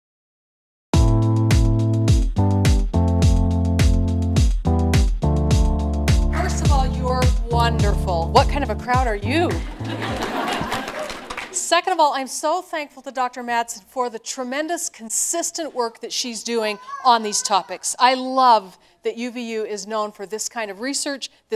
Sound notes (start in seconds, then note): 9.6 laughter